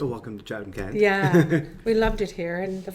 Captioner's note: laughing